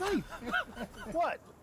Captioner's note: giggling